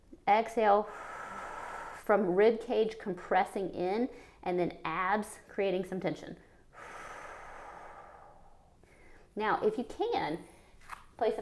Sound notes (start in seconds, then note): 0.0 inhales; 0.8 exhales; 6.7 exhales